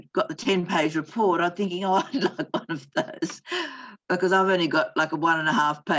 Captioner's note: laughs